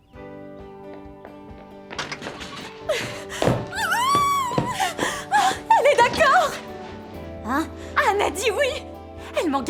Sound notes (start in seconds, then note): 3.7 excited squealing; 3.7 laughing